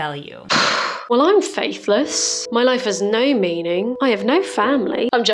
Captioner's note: sigh